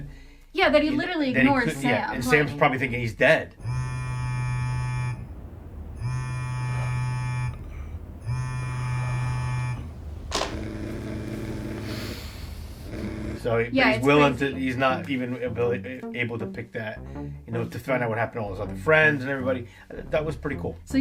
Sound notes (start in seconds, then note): 4.0 phone vibrating; 12.1 Dean inhales shakily